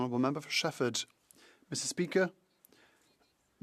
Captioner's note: speaking French